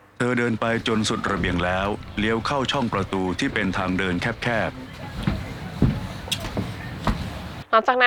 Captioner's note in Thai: เสียงเดิน